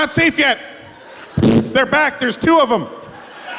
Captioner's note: fart sounds